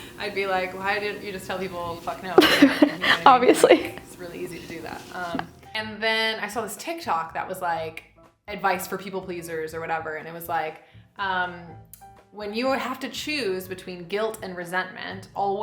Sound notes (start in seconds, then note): 2.3 giggling; 4.2 fingers snapping